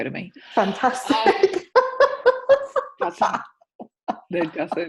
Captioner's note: laughing